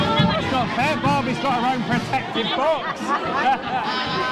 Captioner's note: laughter